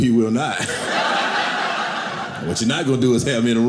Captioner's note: audience laughing